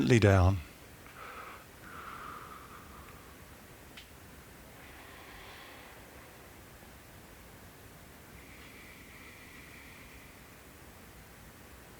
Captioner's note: exhales